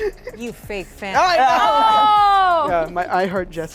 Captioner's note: laughter